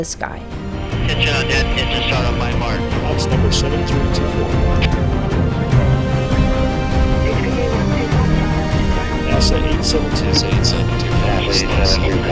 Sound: radio chatter

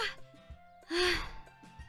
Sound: sighs

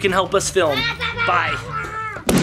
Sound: yells

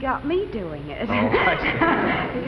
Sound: laughs

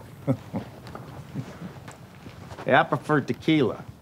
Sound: chuckles

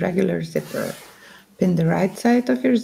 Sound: unzips

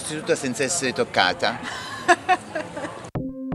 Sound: laughing

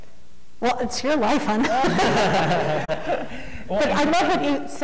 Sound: laughing

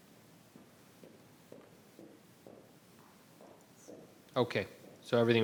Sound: footsteps tapping

